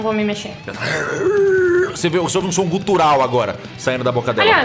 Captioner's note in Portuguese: Grunhido